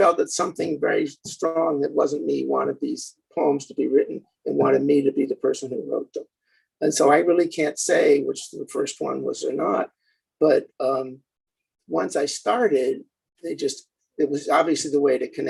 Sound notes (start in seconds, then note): none